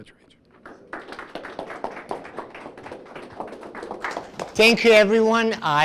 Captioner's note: audience applauding